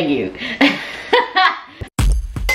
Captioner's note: laughs; upbeat music